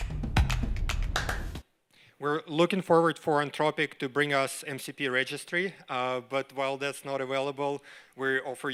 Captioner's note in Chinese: 掌聲